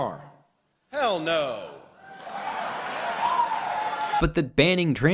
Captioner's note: audience cheering